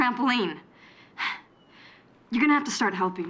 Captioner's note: sighs